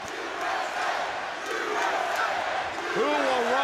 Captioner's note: crowd cheering